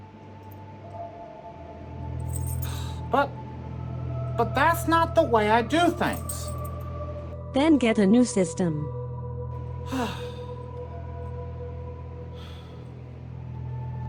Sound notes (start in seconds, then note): 9.8 frustrated sigh